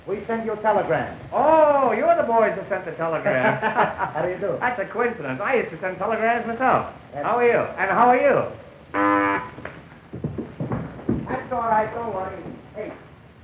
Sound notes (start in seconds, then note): 8.9 horn tooting